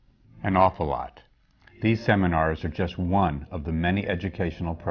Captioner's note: none